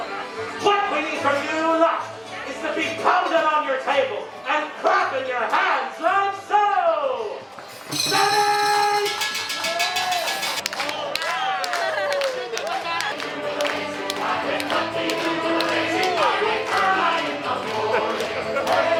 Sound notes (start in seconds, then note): 10.6 everyone clapping; 14.3 pirate themed song